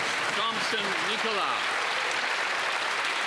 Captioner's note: some Applause